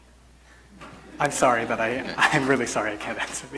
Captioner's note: laughs awkwardly